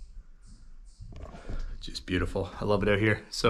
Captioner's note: footsteps